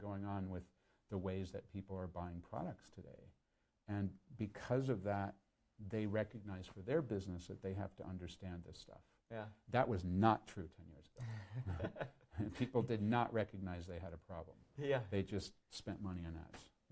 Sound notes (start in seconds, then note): 11.3 laughs